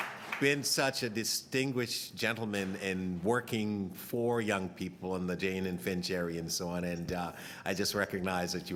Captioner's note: applause